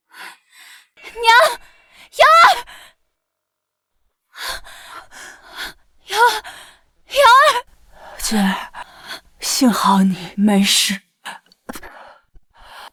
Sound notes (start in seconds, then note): 6.1 gasp